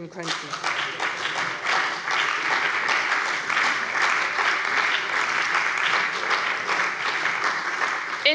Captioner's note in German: Beifall bei der CDU und dem BÜNDNIS 90/DIE GRÜNEN